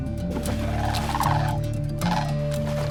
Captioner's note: squawks